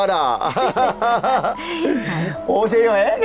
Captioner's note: both laughing